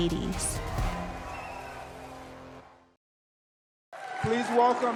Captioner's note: distant cheering